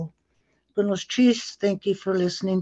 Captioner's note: non-english speech